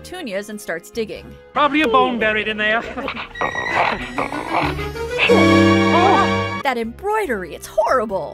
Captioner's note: both shriek